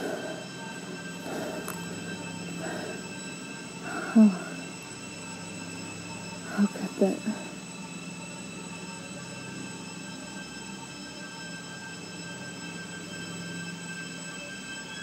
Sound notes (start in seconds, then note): 3.8 sighs; 11.4 ominous music continues